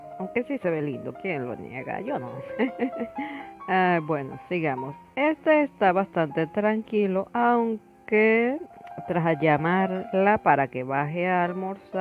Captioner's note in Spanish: risas